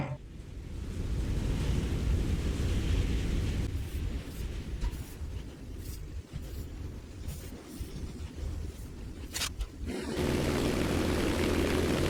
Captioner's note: aircraft Engines ,Gunfire, Flying Sounds